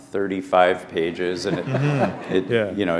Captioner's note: laughter